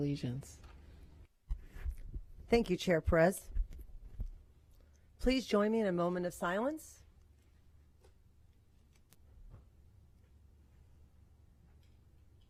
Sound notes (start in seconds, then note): 7.3 moment of silence